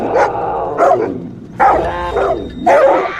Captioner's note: snow leopard growls